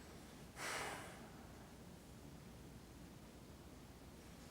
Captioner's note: Randall sighs